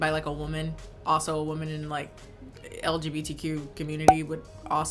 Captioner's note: popping